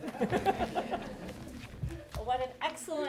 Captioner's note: audience laughing